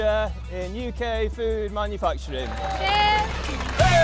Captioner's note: audience cheering